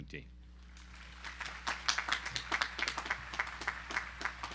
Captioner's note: audience applauding